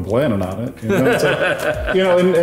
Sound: laughing

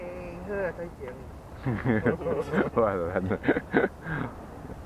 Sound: laughing

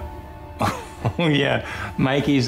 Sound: chuckles

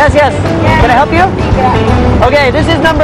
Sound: speaking indonesian

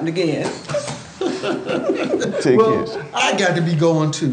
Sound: laughing

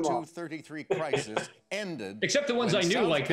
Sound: laughing

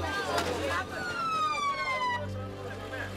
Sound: siren wailing

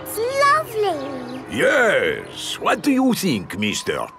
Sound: none

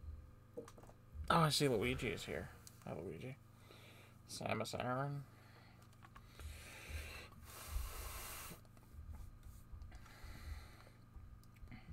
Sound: blows nose

